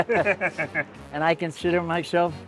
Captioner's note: laughter